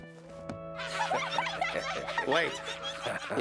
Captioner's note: laughter